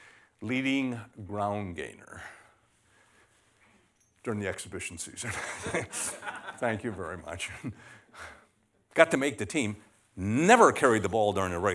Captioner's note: laughter